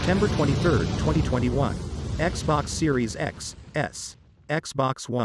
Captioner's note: fire crackling